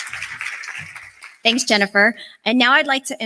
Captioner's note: applause